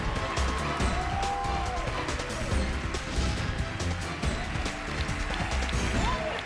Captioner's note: cheers and applause